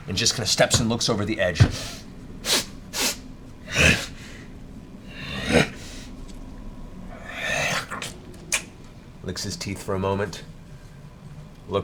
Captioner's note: sniffs and grunts